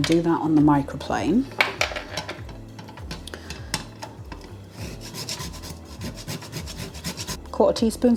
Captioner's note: grating